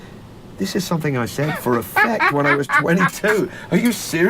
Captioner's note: cackles